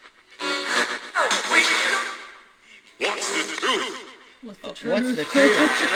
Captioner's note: radio static